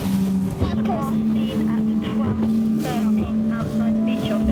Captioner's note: voice On Radio